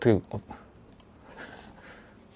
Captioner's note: chuckle